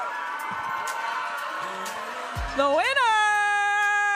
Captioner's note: audience applauding and cheering